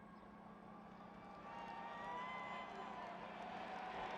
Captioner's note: applause and cheering